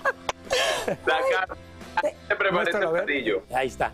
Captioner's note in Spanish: risas